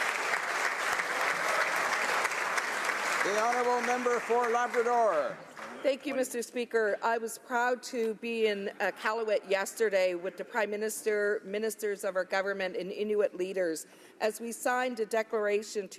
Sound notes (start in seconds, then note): 5.7 applause